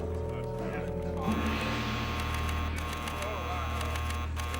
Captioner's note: beeping